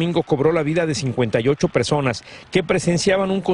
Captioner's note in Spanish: habla en ingés